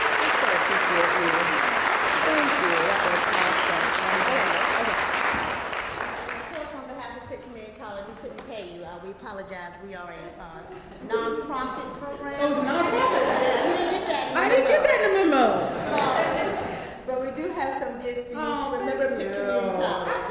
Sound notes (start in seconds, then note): 0.0 applause; 12.1 laugh